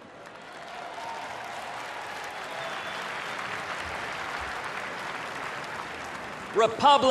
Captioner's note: applause, cheers